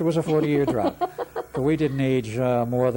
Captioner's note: laughs